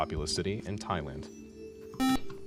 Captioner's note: buzzer